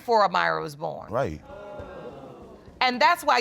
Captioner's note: audience exclaims